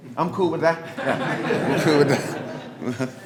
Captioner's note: group laughing